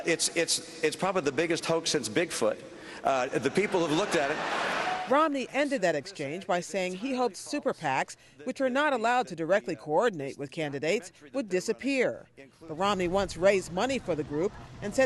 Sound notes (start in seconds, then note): 3.3 laughter